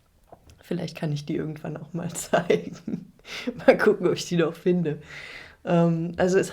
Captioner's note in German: gelächter